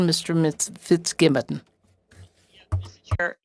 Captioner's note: speaking French